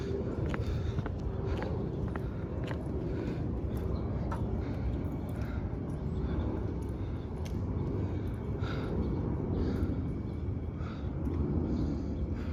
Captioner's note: marching and clicking feet